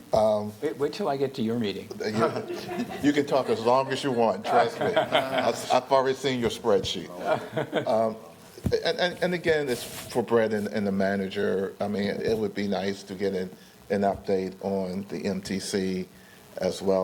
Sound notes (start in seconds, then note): 7.1 laughter